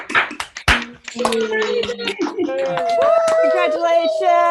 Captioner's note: cheers; cheering